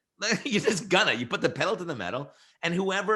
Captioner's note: laughs